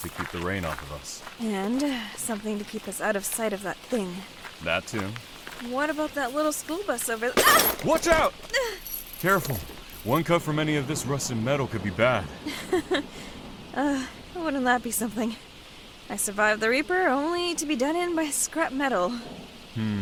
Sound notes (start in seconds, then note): 8.4 yelps; 12.4 nervous laugh